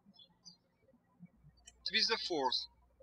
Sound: birds chirping

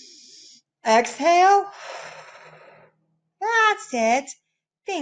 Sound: breaths out; breaths in

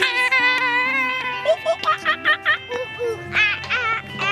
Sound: imitating monkeys

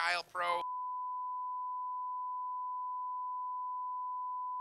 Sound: screen beeping

